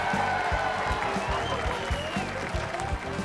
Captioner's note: audience cheers